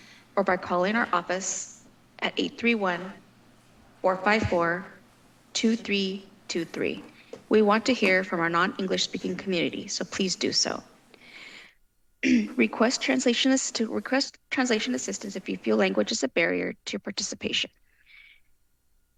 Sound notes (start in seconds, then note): 12.2 clears throat